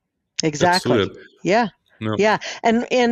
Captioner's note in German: lacht